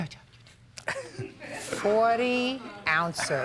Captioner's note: audience laughs